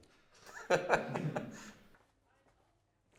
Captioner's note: laughter